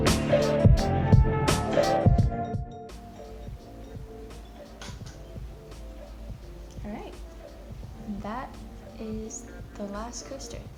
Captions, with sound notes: [Scissors clatter] Alright! That is the last coaster. Finished one.